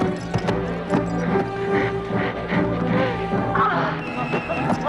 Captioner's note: Hundra panting